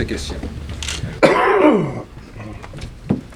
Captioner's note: cough